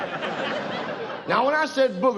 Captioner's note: audience laughs